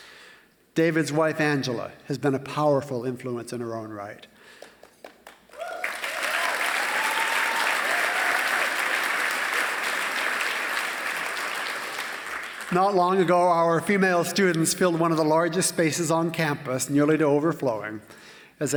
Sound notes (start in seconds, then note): 4.5 applause